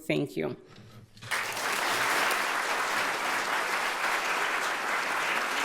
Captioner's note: audience applauding